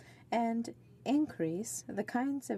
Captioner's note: speaking French